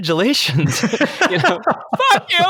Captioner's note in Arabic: يضحك